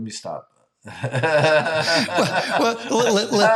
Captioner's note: laughing